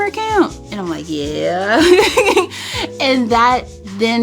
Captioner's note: laughs